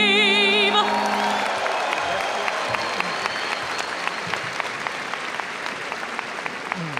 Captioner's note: audience cheers and applauds